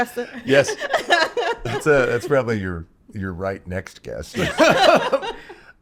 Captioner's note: laughs